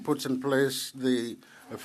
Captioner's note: speaking French